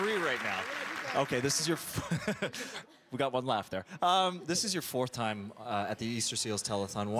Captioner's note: applause